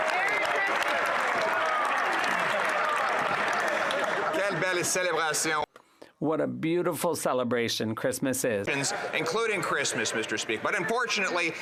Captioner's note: some Applause